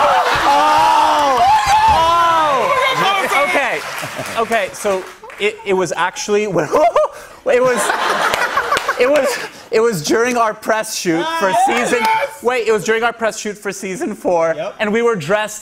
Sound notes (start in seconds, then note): 0.0 laughter; 7.6 laughter